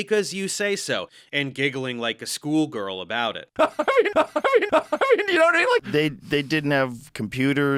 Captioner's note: insane laughs